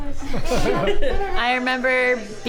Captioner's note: all laugh